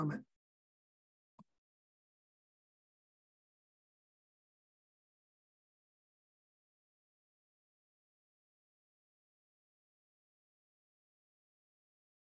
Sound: audio gap

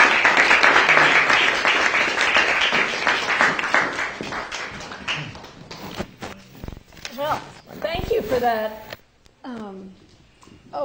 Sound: applause

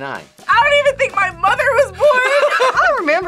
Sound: laughs

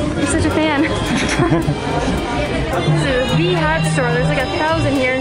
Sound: both chuckles

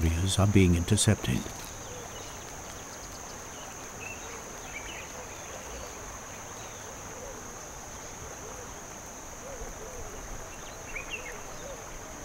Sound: nature sounds

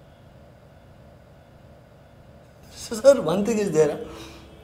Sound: none

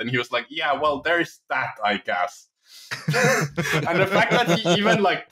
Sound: laughter

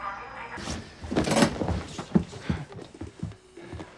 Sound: bangs

